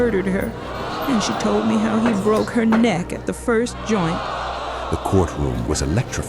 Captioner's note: crowd gasping